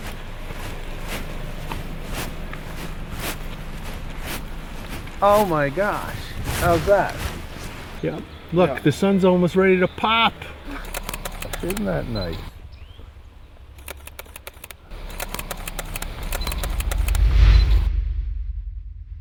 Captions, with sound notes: Oh my gosh. How's that? Yep. Look, the sun's almost ready to pop. Isn't that nice? [camera clicking]